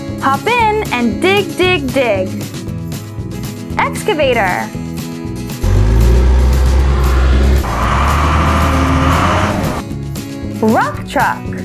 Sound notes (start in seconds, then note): 5.6 excavator Engine Sound; 7.8 Rock Truck Engine Sound